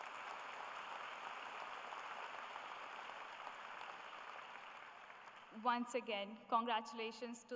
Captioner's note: applause